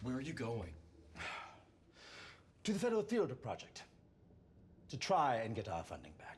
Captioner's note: sighs